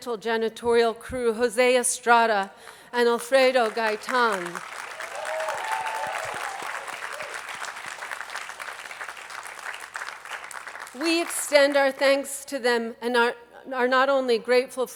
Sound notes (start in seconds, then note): 5.9 attendees applauding